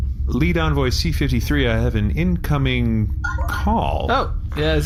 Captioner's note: communicator chimes